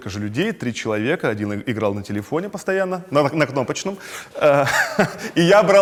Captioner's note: chuckles